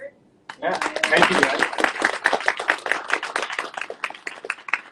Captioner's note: audience cheering